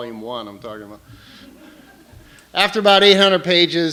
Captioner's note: laughter